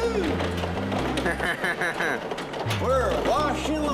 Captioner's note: laughs